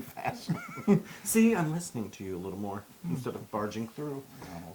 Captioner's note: laugh